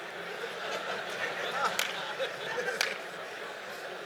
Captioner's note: laughter